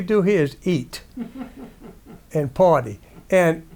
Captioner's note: audience laughs